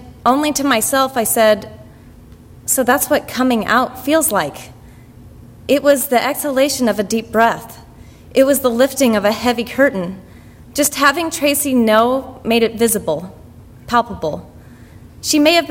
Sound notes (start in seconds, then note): none